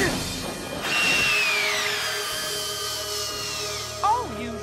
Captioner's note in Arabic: صراخ